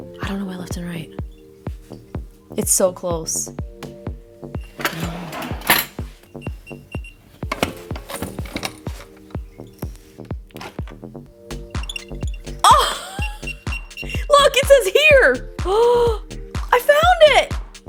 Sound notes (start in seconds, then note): 6.1 slow beeping; 11.4 rapid beeping